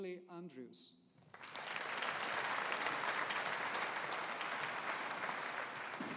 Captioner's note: audience applauding